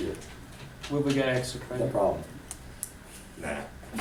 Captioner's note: voiceover